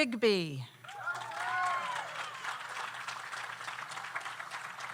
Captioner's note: audience applauds